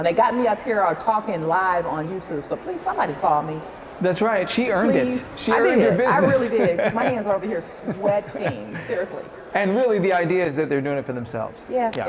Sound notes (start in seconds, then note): 8.5 laughs